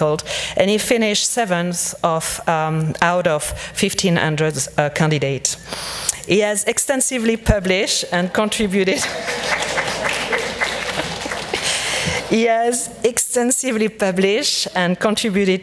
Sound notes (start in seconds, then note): 8.9 laughs; 9.0 audience cheers and applauds